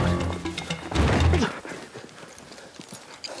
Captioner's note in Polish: dźwięk padania na ziemię